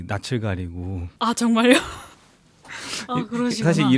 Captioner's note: laughs